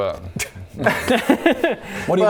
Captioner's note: tired laughs